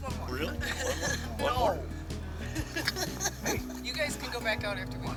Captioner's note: laughing